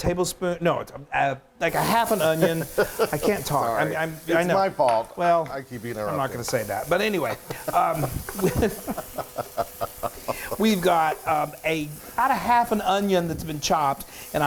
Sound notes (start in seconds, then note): 2.2 giggling; 7.2 laughing